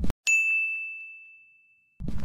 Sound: ding

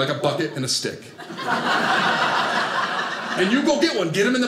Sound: audience laughing

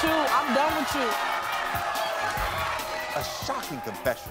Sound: audience chattering

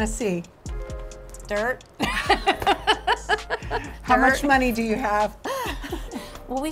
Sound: laughs

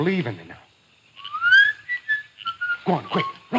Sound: man whistling

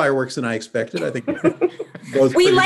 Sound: laughs

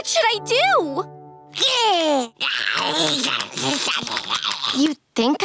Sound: roaring

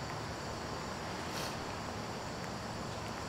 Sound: sniffles; footsteps

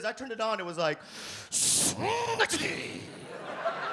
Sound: speaks Japanese

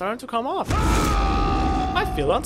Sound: braggart’s roar

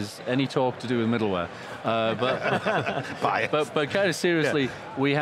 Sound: laughs

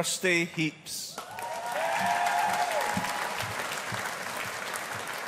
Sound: audience applauding

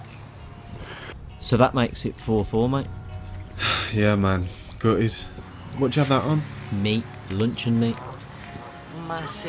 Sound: sigh

